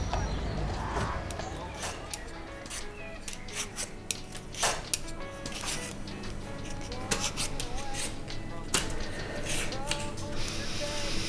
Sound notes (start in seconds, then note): 4.3 kitchen radio playing in background